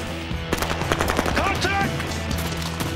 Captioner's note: gun firing rapidly